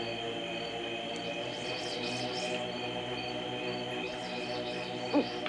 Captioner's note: sounds to call cat; owl hoot